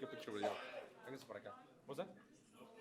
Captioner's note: spanish speech